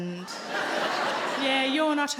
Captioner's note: audience laughing